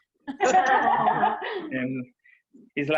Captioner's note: laughter